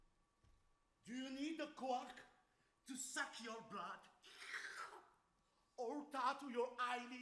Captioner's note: man slurps